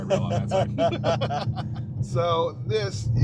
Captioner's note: both laughing